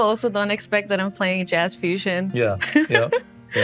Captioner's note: chuckles